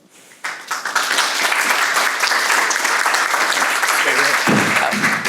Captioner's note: audience applauding